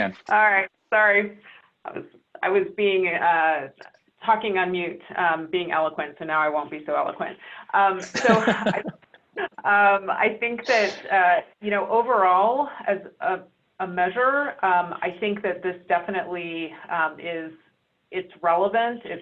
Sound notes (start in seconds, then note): 8.0 laughter